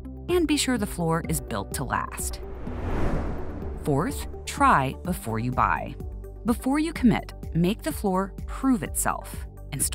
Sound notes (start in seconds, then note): 2.0 transition whooshing